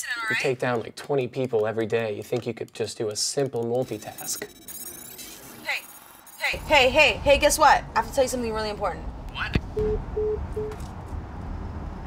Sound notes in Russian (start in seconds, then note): 3.8 электронный писк; 10.6 телефонные гудки